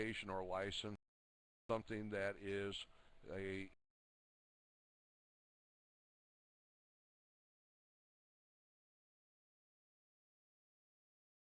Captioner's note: audio drops